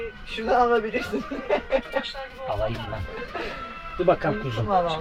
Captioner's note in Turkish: kahkaha